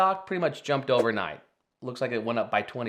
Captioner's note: screen whooshing